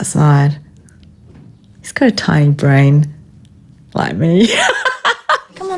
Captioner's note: laughs